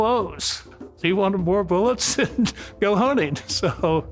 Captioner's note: laughs